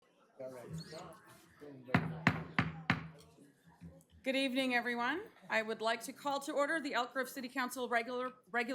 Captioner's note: gavel